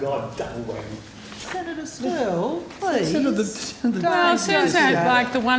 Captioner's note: multiple people talking